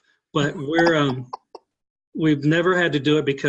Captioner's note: laughing